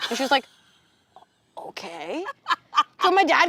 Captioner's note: laughing